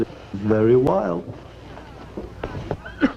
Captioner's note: coughing